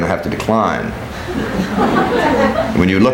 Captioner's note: people laughing